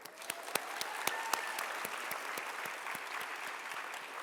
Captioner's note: audience applauding